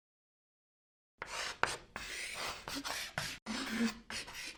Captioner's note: chalk writing